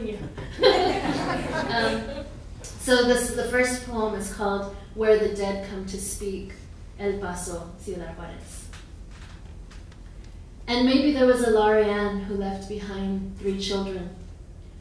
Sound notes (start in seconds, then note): 0.4 laughing; 7.5 speaks in foreign language